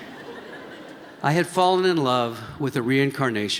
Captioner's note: laughter